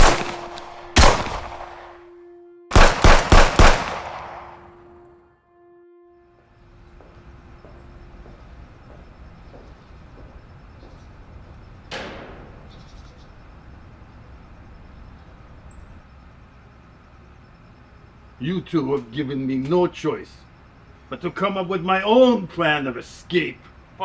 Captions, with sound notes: [gun banging] [suspenseful music] [footfalls clicking] - You two have given me no choice but to come up with my own plan of escape!